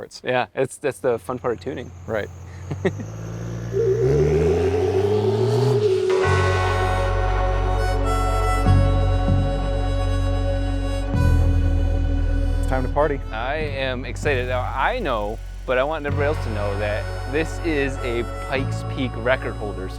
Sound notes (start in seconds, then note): 3.1 truck engine roaring; 6.3 calm music